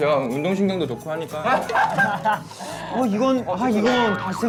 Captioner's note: laughing